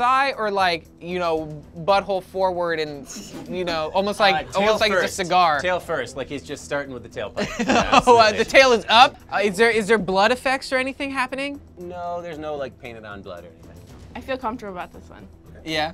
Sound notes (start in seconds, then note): 7.4 laughs